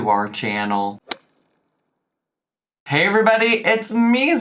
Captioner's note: screen thwaps